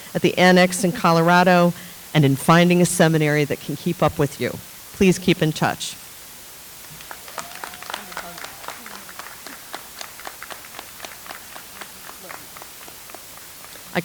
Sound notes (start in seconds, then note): 6.8 audience applauds